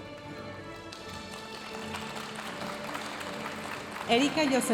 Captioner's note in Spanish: aplausos de la audiencia